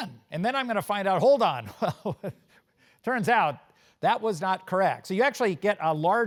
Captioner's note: laugh